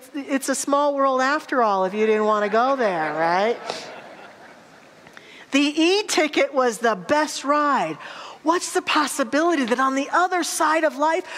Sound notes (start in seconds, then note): 2.4 audience laughter